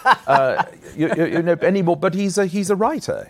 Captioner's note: laughs